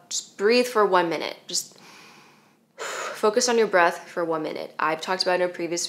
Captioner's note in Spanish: inhala